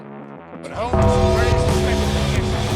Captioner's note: Undertaker-style GONG!